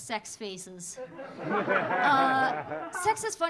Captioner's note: audience laughing